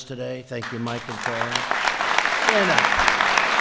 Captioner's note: applause